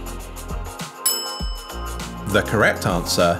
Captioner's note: bell rings